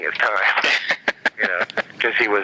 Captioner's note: laughter